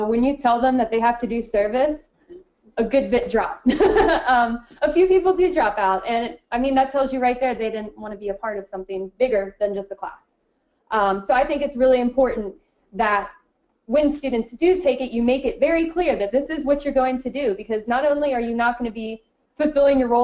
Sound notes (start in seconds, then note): 4.1 laughing